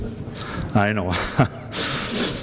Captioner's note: he laughs